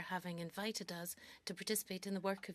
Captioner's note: speaking French